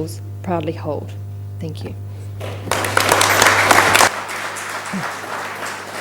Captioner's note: applause